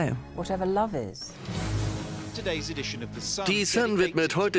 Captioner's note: voiceover